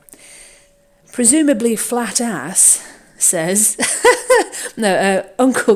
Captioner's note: laughs